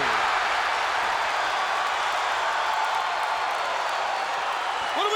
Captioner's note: crowd cheering loudly